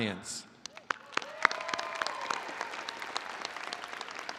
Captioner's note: all applauding